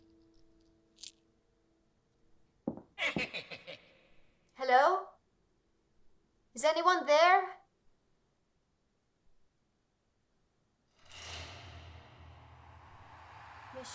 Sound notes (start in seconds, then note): 3.0 leprechaun laughing; 11.1 eerie music